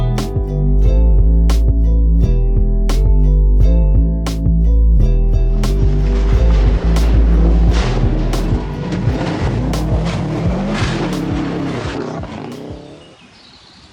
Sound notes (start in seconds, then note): 7.7 turbo vent